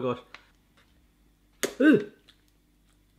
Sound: sucking

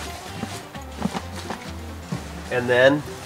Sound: shuffling

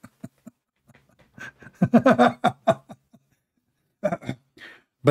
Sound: Ketawa

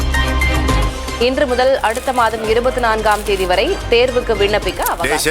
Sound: breaking news being read on TV

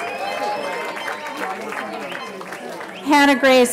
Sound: cheering

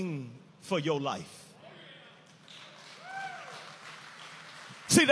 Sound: audience applauding and cheering

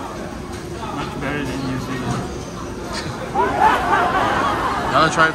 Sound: laughs

